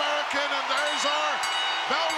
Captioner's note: bell ringing